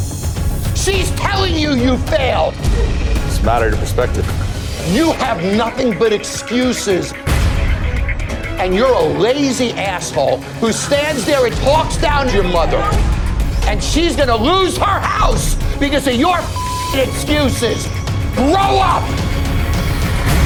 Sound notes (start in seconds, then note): 7.1 dramatic music; 16.5 beep